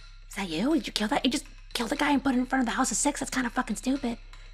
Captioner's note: whispering